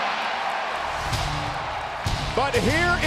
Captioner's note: audience cheering